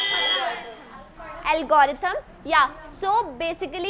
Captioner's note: loud beep